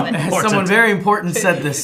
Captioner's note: laughing